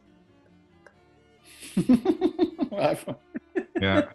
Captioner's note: giggling